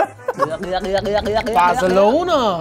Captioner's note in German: Wabernde Laute